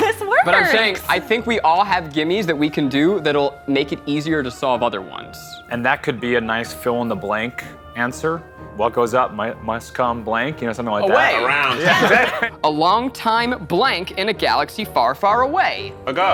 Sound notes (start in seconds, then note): 10.7 overlapping chatter